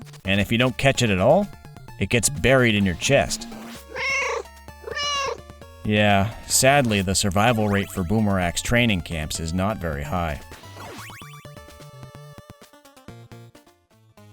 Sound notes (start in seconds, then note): 4.7 meow